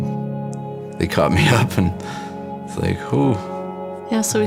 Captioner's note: laughs